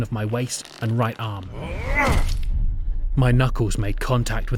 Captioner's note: SFX sound of punch